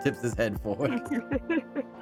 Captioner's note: laughing